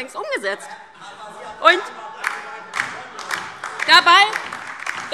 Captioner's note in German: Beifall DIE LINKE und vereinzelt SPD